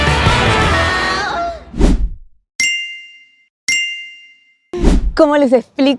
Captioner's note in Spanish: campana